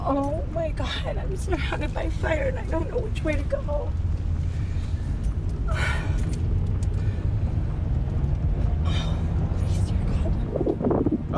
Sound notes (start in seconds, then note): 5.6 sighs